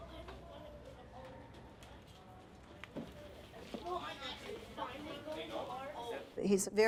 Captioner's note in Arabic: أطفال يتحدثون